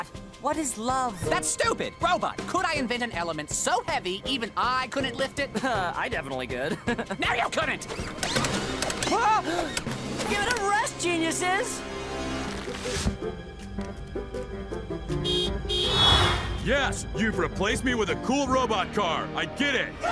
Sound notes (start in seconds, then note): 6.6 chuckles; 10.2 gasps; 15.1 horn blowing